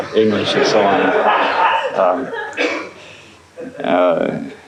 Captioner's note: laughter